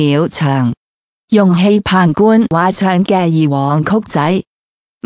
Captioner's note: Mandarin